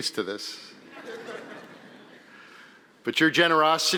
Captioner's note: audience laughing